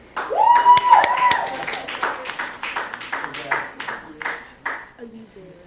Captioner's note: applause